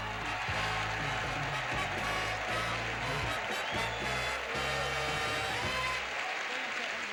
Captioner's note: audience applauding